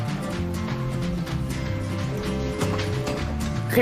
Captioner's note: happy music continues; telephone ringing